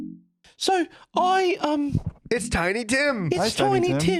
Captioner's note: high-pitched, British